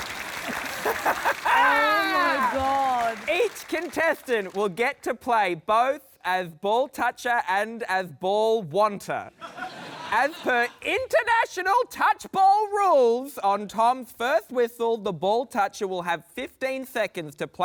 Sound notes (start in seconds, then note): 0.4 laughs